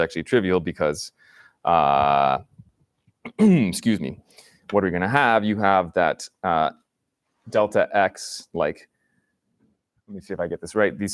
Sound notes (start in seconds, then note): 3.2 clears throat